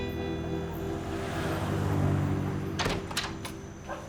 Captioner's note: engine rumbling; door latch clicks